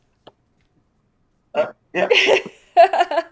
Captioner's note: laughs